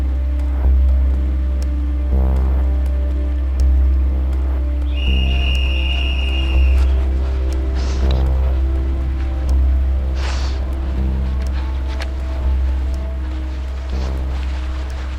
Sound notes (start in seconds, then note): 4.8 second whistle; 8.8 breathing